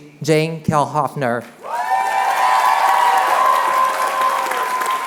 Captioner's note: cheering